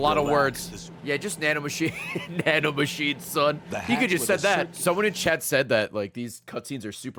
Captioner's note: laughs